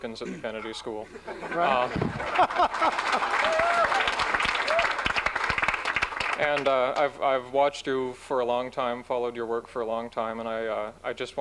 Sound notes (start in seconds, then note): 0.5 laughs; 1.9 applause